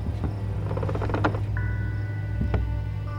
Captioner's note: floorboard creaking; soft tense orchestral music